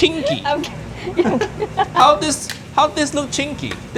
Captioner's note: chuckling